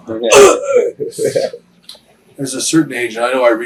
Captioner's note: Jim grunts